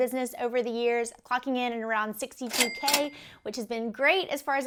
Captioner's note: cash register ding